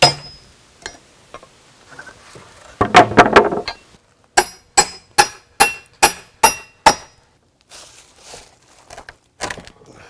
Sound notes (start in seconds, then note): 2.6 wood plank clanking; 5.6 hammer dinging